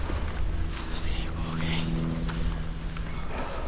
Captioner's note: whispering